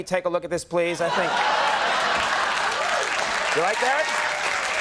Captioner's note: audience laughing and applauding